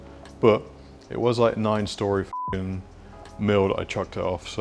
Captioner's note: beep